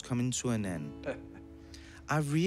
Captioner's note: laughs